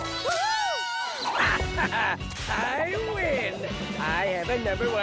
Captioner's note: laughs